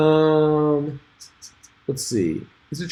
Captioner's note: tuts